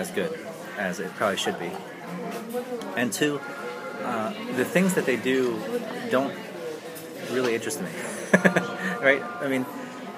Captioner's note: laughs